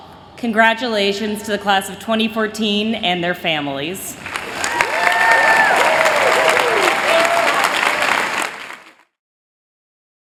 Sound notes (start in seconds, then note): 4.2 applause